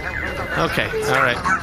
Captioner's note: loader-droid beeping, Dar buzzing, C-53 shaking as well; audibly trembling